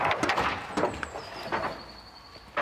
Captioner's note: birds chirping